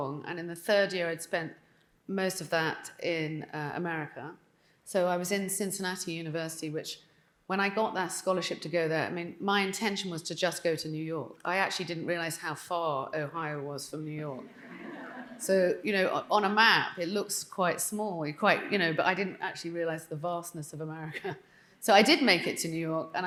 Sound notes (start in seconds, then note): 14.4 audience chuckling; 21.3 chuckling